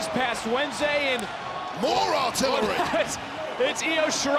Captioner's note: laughs